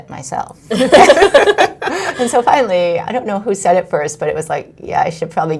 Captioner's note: laughs